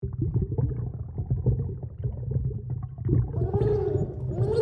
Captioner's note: bubbly watery noises – calm